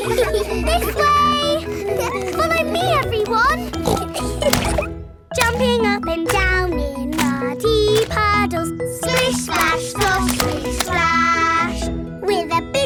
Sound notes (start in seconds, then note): 0.0 giggles; 4.3 snorts; 4.8 giggling